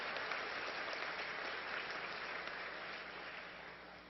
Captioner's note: applause